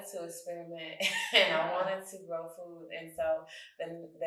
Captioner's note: chuckles